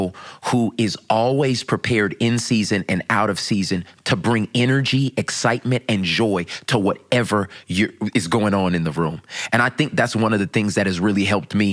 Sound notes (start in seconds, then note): none